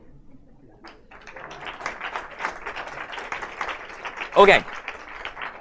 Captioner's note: audience applauds